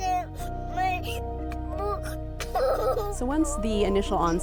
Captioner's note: child crying